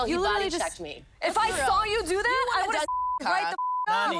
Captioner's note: beep